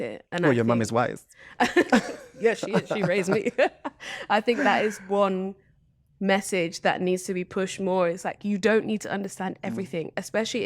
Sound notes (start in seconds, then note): 1.6 laughter